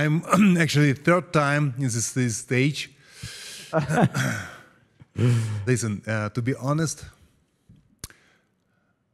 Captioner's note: laugh